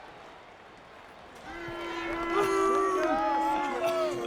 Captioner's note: John Cena bellowing; crowd clamoring